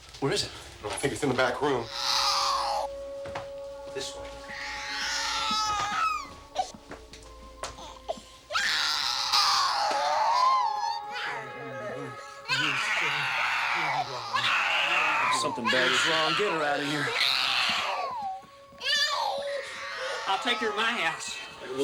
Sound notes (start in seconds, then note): 8.4 baby crying